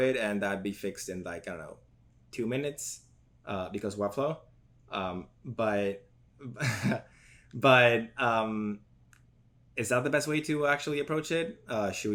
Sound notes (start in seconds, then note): 6.6 laughs